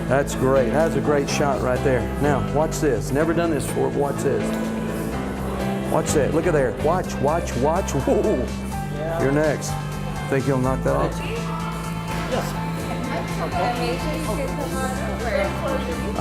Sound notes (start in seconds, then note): 0.0 upbeat music; 12.9 women talking